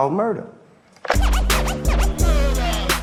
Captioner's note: record scratches